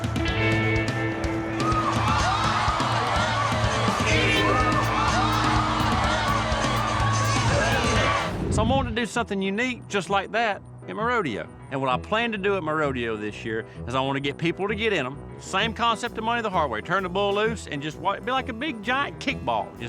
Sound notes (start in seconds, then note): 0.6 crowd shouting